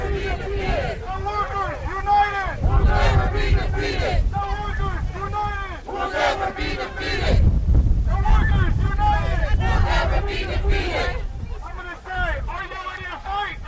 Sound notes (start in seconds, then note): 3.7 chanting